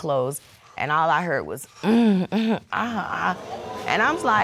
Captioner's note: imitating moaning